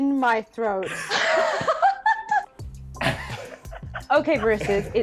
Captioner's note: laughing